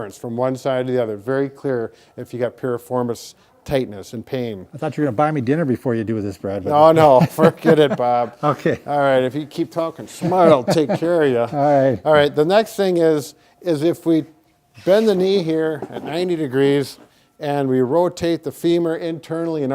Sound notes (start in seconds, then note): 6.8 chuckles